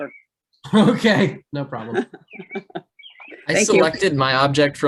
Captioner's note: giggles